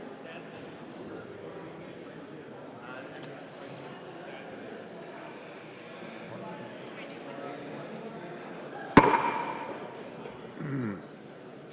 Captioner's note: gavel